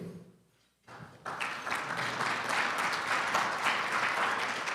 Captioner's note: audience clapping